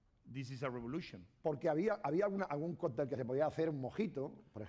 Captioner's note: speaking spanish